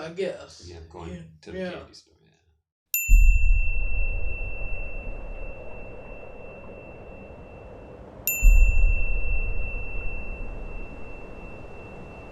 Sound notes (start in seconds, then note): 2.9 bell chiming